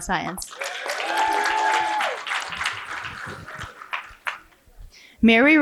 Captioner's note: cheering and applause